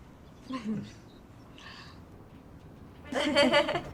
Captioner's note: Tilly chuckling; group laughing